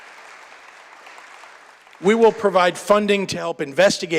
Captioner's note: applause